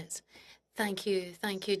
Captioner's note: speaking French